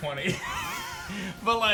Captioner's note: chuckles